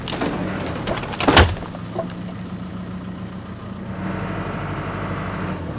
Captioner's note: logs crashing; engine rumbling continues